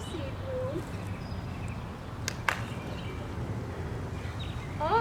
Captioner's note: clapping